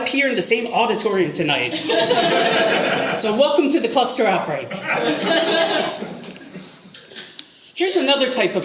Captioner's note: audience laughter